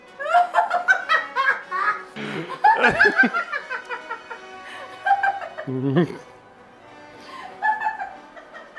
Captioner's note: just heaps of the best levels of cackling